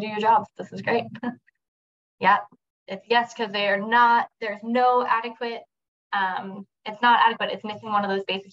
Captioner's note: chuckles